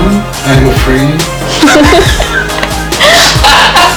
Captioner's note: laughing